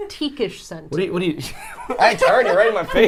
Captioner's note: group laughs